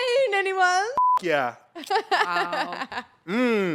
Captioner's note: beep